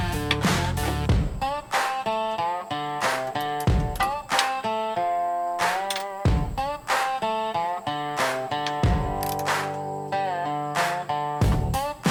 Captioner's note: socket Rench clicking